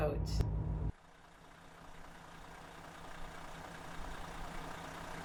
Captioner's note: car engine purrs